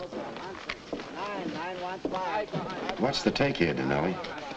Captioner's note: men chattering